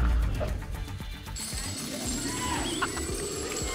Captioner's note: thump; coins jingling; laughs